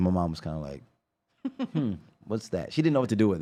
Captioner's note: laughs